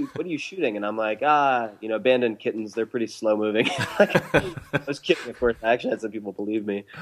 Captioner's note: laughs